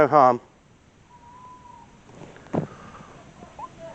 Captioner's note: owl hoots